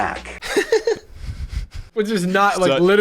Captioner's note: laughing